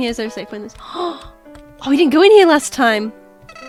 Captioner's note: gasps